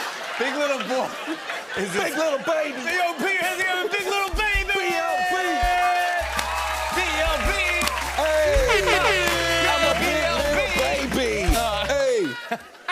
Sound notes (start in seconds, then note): 0.0 laughter; 5.0 cheers and applause; 8.2 air horn blares